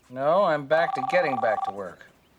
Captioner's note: on phone